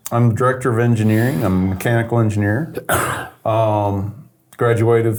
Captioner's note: coughs